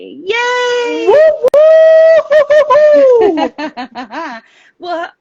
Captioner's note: cheers